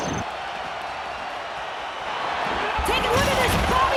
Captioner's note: crowd cheers